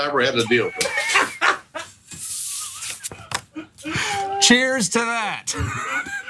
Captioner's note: laugh